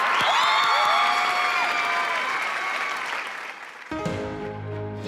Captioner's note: cheers and applause